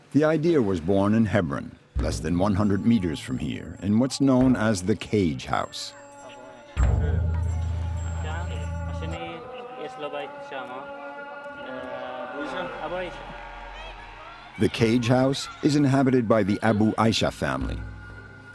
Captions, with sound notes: The idea was born in Hebron, less than 100 meters from here, in what's known as the Cage House. [Hebrew spoken audio] The Cage House is inhabited by the Abou Aïsha family.